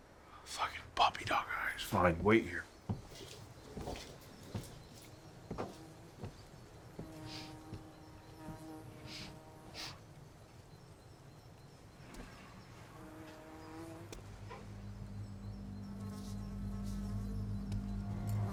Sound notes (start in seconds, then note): 5.3 fly buzzing; 9.1 Claire sniffing; 14.1 sinister music